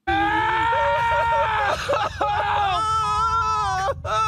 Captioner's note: crying